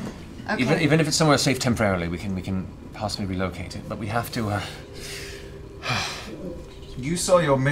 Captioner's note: sighs